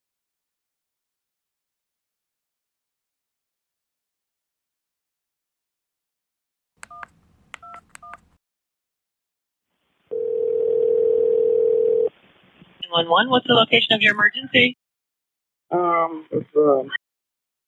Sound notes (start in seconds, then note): 6.8 numbers beeping; 10.1 phone ringing